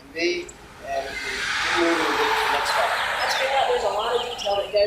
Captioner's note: cars rushing by muffles voices